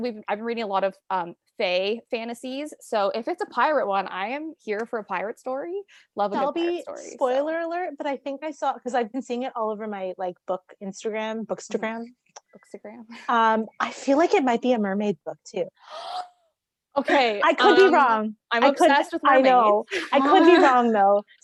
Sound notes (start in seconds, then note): 15.8 gasps